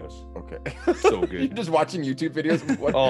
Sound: laugh

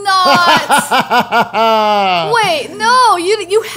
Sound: laughs

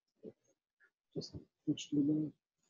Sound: chatter

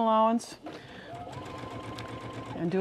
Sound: sewing machine whirring

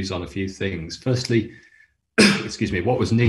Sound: coughing

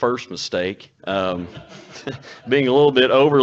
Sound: audience laughs

